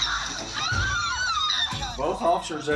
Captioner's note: people screaming